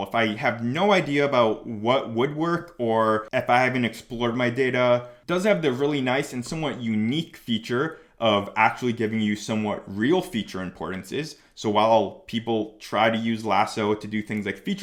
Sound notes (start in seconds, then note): none